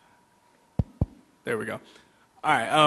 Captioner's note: taps mic